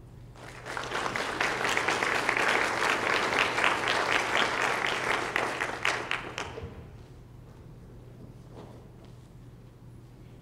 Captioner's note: applause